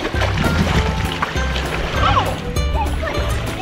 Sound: water splashing

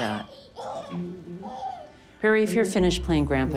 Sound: baby cooing, laughing

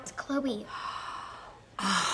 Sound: gasping; sighing

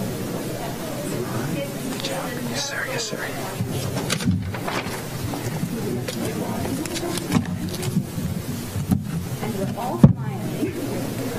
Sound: applause

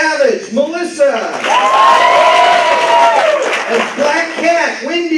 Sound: applause

